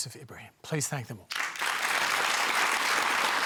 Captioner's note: applause